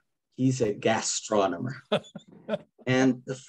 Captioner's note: laughs